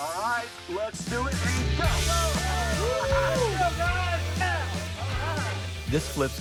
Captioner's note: optimistic music; crew shouting